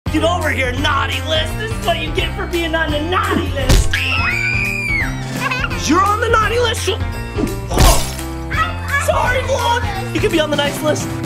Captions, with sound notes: - Get over here, naughty list. This is what you get for being on the naughty list. (kids screaming) You're on the naughty list? (glass breaks) Sorry vlog. You could be on the nice list.